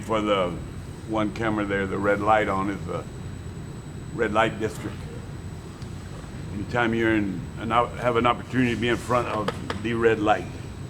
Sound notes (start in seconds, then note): none